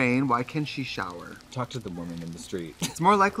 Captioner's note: laughs